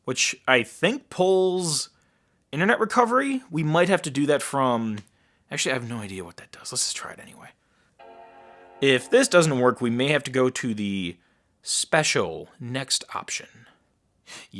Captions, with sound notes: which I think pulls internet recovery? We might have to do that from, actually I have no idea what that does, let's just try it anyway. (startup sound) If this doesn't work we may have to go to the special next option.